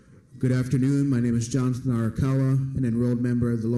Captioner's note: foreign language